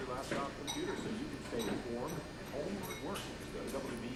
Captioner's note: chattering